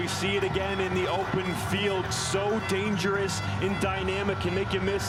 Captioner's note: cheering and Applause